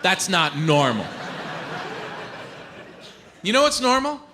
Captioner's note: audience laughs